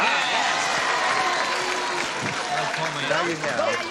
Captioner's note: cheering